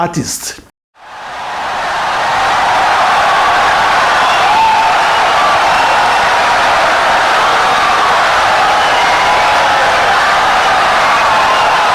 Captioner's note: wild applause and cheering for 17 seconds